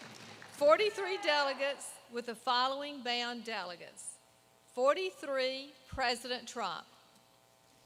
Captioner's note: applause